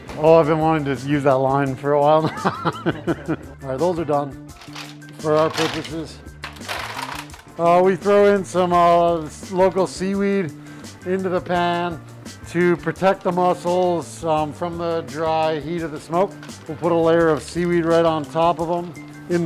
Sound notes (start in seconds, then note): 2.3 laughs; 4.5 shells rattle